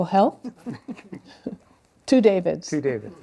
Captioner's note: laughter